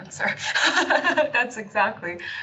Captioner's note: laughing